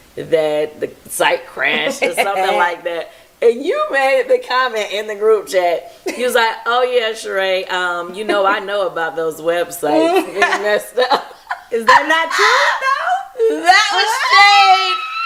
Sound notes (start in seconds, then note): 9.9 laughs